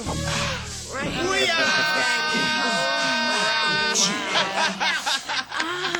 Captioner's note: laughter